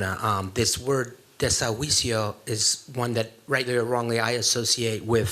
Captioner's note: spanish